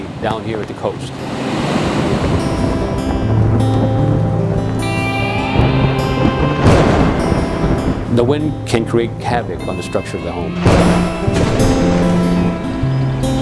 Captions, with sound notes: down here at the coast. (flag flapping in the wind) (thunder and heavy winds) The wind can create havoc on the structure of a home.